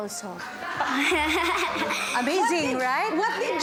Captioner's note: giggles